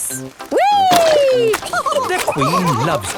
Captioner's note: all laughing